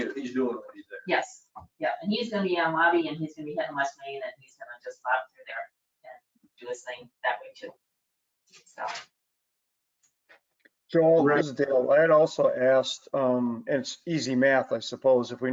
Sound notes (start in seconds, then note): 2.3 speaking faintly